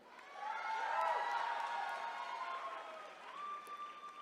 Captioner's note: attendees cheering